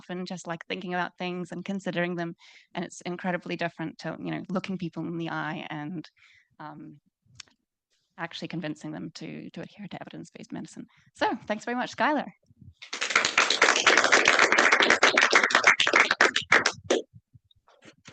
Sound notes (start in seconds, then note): 12.8 audience applauding